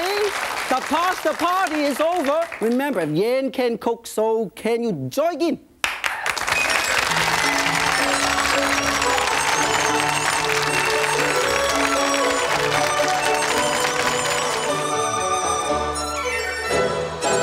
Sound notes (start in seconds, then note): 6.2 audience cheers; 7.0 joyful music